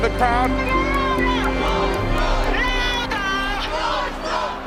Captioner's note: crowd chanting